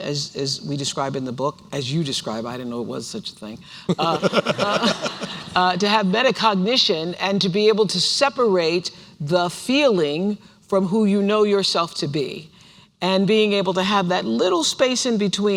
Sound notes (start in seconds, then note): 3.9 laughter